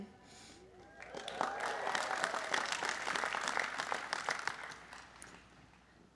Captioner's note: applause